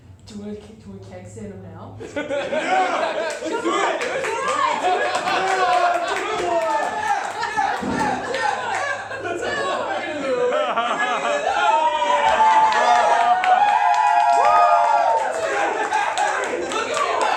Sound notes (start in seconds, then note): 6.8 audience cheers; 17.1 laughter and applause